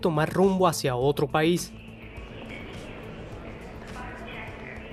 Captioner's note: airport Noises